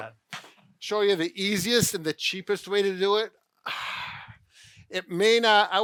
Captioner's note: sighs